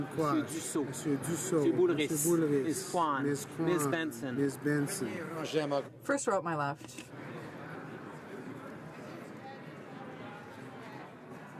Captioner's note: speaking French